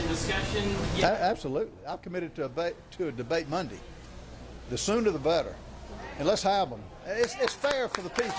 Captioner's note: applause